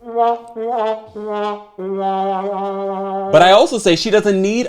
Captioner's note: sad horn honking